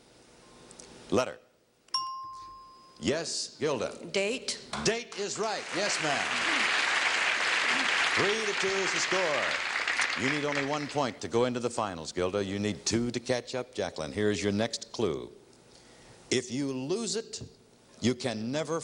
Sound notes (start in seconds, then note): 1.9 ringing bell; 5.0 audience clapping